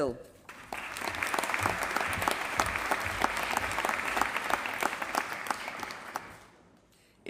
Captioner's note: applause